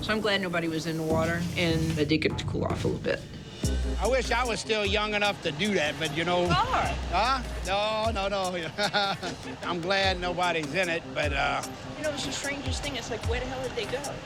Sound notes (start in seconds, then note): 8.4 laughs